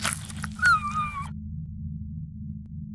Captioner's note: whimpering